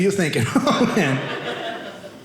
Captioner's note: audience laughing